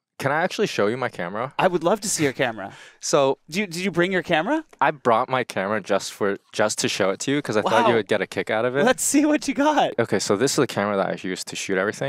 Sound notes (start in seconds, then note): 2.0 chuckles